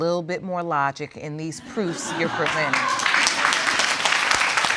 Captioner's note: all laugh, applaud